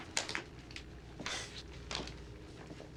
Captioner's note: huffs